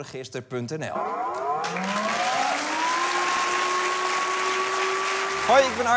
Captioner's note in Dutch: Luchtalarm